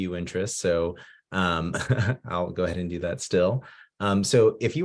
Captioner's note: chuckling